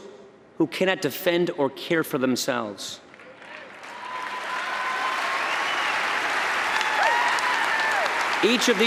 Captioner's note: applause